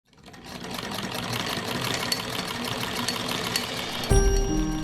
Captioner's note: clacking and whirring; sophisticated piano music